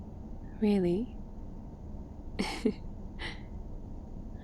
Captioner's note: laughs